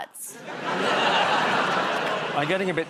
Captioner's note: audience groans